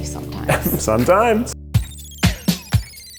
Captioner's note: laughs; cool electronic music